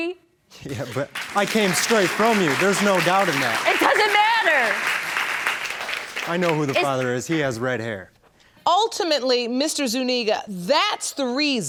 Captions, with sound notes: Yeah, but I came straight from you, there's no doubt in that. It doesn't matter! (AUDIENCE CLAPPING) I know who the father is. He has red hair. Ultimately, Mr. Zuniga, that's the reason